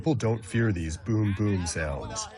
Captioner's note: speaking foreign language